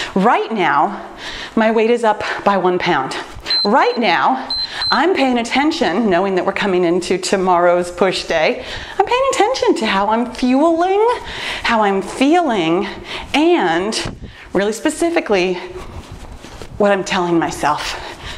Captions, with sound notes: Right now my weight is up by one pound. Right now (timer beeps) I'm paying attention, knowing that we're coming into tomorrow's push day. I'm paying attention to how I'm fueling, how I'm feeling, and, really specifically, what I'm telling myself.